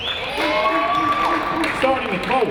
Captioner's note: audience applauding and cheering